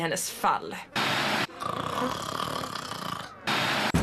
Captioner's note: snores